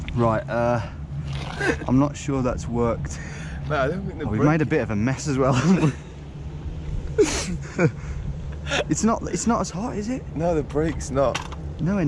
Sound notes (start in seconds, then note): 7.1 laughing